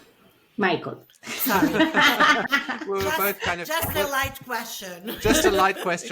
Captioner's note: laughs